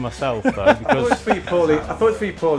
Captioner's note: laughs